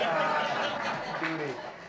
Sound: audience laughs

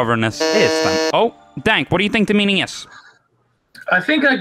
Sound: buzzes

